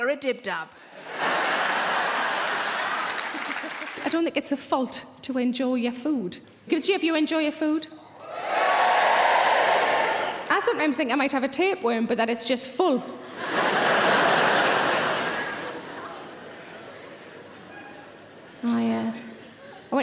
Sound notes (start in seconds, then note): 8.2 audience cheering; 13.2 audience laughing